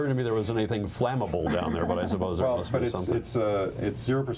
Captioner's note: laughter